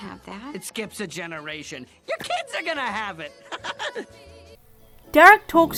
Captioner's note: laughs